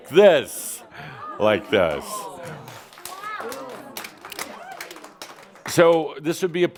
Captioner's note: audience responds “Oh!” and “Wow!” and some applause